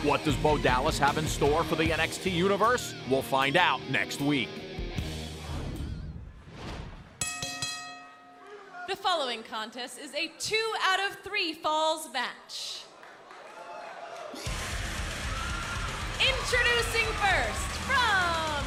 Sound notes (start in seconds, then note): 4.3 bell ringing